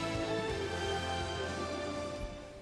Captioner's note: applause